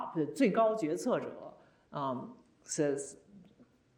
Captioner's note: speaking Chinese